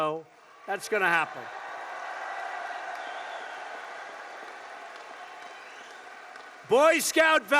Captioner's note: applause